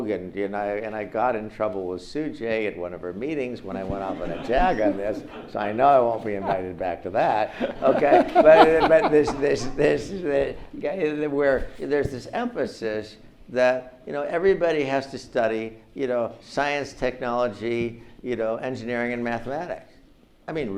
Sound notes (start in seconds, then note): 7.5 audience laughs